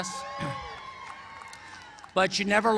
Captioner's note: cheering